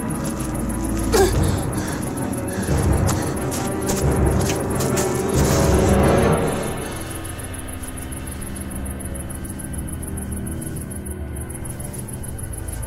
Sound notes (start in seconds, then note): 1.1 grunts softly; 5.9 suspenseful music